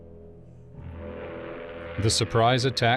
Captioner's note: jet engines roar